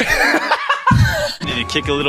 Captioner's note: laughs